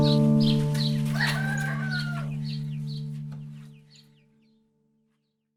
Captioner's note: cockerel crows